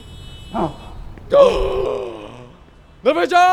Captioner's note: gasps